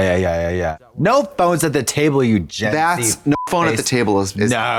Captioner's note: beep